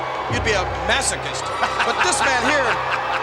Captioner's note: McMahon laughs